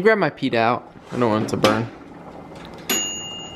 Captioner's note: ding